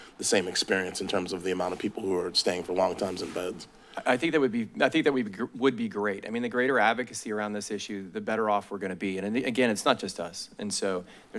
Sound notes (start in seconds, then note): none